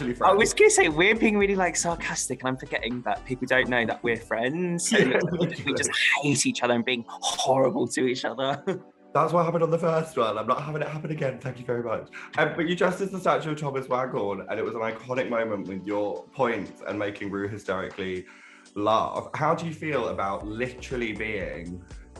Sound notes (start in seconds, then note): 4.8 laughs